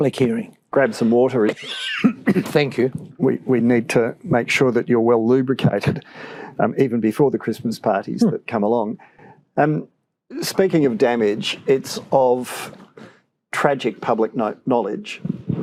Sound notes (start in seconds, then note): 1.4 coughs